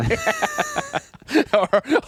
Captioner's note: laughing